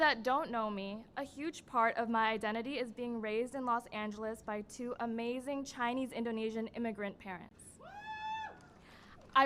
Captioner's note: cheering and applause